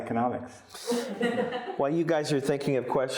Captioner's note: audience laughing